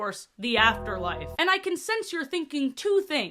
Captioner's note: bell bong sfx